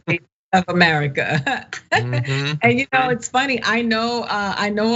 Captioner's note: laugh